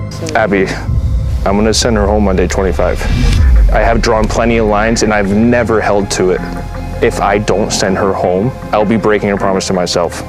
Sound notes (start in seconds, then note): none